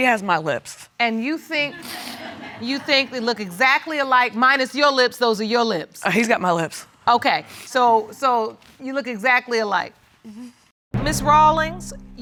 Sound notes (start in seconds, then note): 1.8 audience laughs